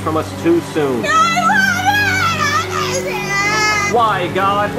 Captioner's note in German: trauriges Schreien